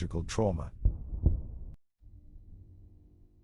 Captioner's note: explosions boom